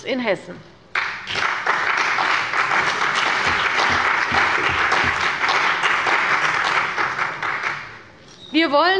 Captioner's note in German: Beifall bei der CDU und dem BÜNDNIS 90/DIE GRÜNEN